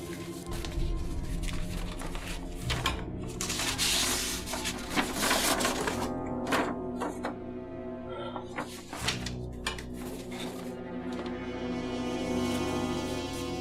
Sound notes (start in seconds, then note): 3.3 extracting paper from file